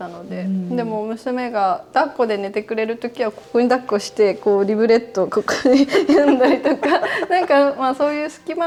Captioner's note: laughs